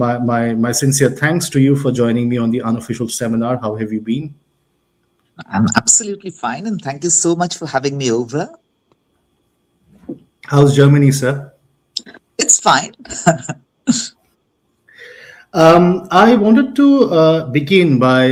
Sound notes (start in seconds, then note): 13.0 laughter